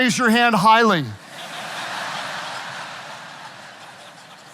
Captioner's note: audience laughing